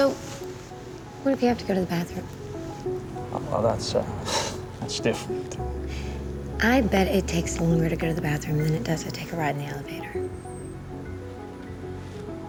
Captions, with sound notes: So, what if you have to go to the bathroom? Well, that's... (CHUCKLES) That's different. I bet it takes longer to go to the bathroom than it does to take a ride in the elevator.